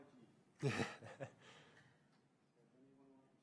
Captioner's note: laughs